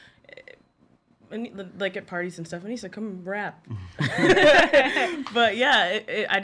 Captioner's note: laughs